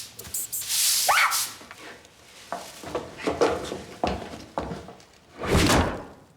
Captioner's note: mouse squeaks; woman shrieks